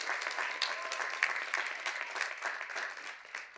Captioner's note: cheers and applause